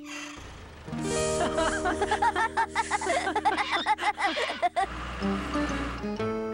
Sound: laughing

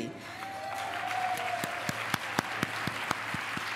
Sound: applause

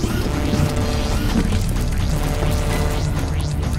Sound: overseer whirring

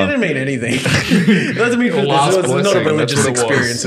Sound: laughing

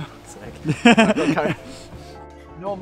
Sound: laughs

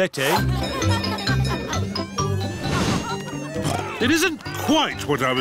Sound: cheerful jingling; oinks

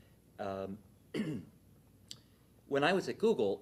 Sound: clears throat

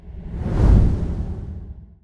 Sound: logo whooshing

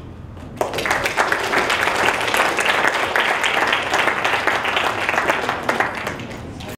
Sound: applause

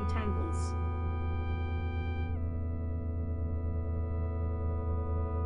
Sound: electronic humming

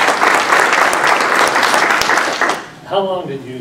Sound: applause

